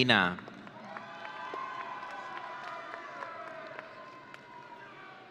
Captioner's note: audience cheering